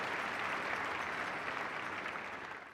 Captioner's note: applause